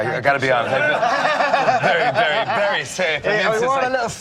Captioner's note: laughter